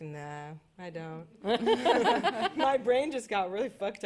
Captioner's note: laughter